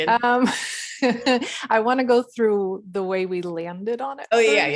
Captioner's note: laughs